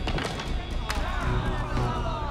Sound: banging stick on the ice

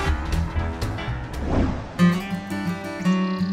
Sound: soft guitar music; birds chirping; gentle music

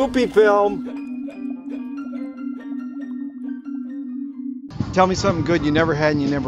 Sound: jaunty piano music; man yipping softly

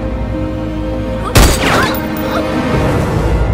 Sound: gunshot

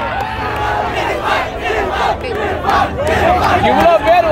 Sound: crowd Chanting

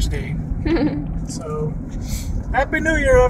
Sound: laughs

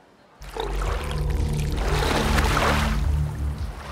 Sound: water sloshing

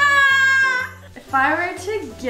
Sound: yelling

